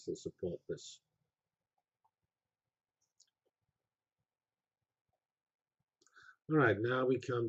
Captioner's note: pause